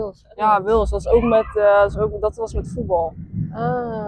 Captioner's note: speaking in Dutch